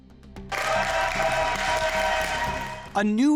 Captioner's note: people applaud